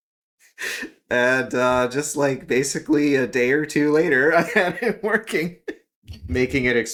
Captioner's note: laugh